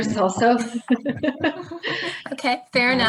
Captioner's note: all laughing